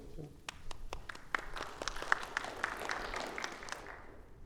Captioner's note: audience clapping